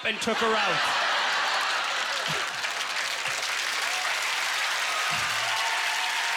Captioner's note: applause